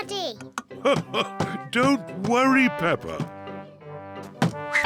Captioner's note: laughs